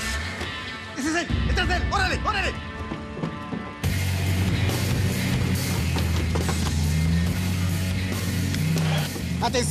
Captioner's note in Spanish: ruido de un motor